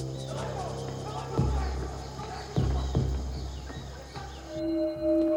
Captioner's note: man speaking foreign language